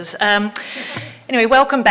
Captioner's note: audience laughing